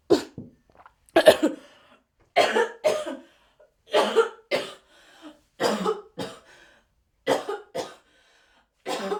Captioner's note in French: Tousse